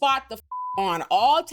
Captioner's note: beep